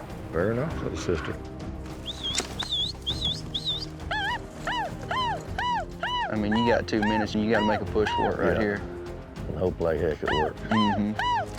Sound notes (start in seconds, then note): 2.0 whistling, yelling